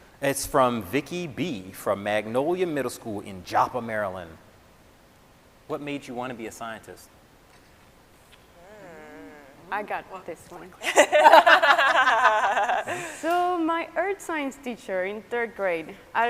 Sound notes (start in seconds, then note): 10.8 scientists laughing